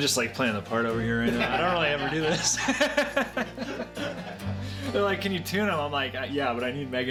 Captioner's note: laughing loudly